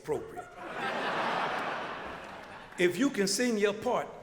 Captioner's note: crowd laughter